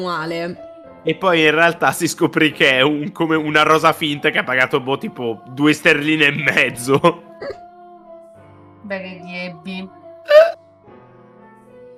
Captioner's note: squeaking